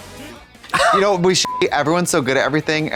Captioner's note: beep